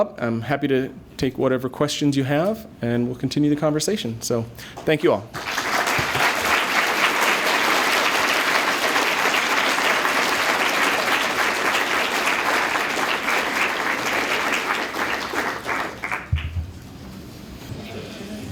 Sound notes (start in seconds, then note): 5.3 applause